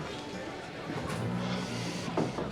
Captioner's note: sighs